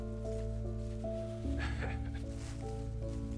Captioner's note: chuckles